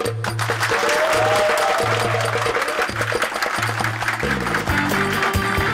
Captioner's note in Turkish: Tezahürat ve alkış sesleri